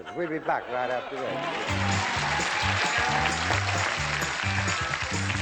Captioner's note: applause, theme music